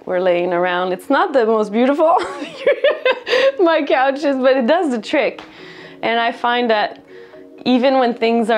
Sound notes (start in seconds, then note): 2.2 laughter